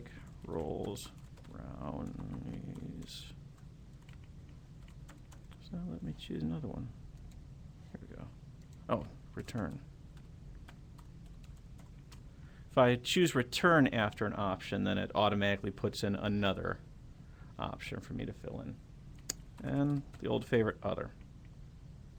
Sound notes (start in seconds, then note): 0.3 typing; 8.9 typing